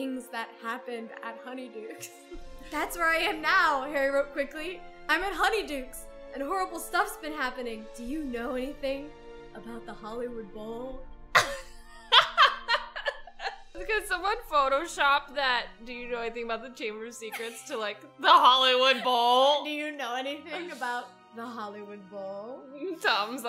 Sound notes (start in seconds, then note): 12.0 laughs